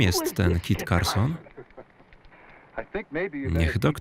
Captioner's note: laughs